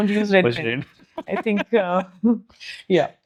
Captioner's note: laugh